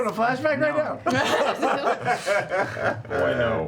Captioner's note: laughter